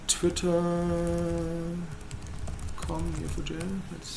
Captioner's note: typing